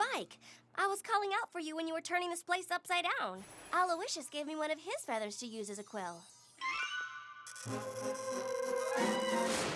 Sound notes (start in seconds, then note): 7.5 poink!